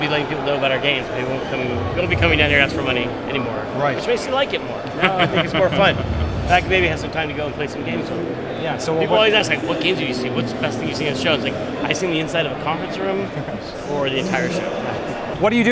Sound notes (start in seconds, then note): 5.0 laughing